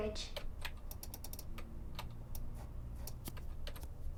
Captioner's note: keys clacking